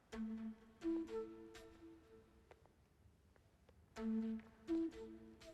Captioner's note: none